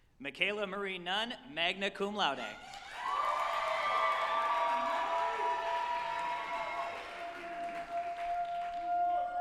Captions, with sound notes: Mikayla Marie Nunn, magna cum laude, (group applauding and cheering)